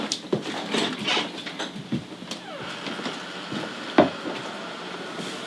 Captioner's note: door squeaking